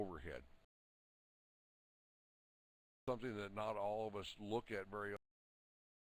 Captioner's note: audio drops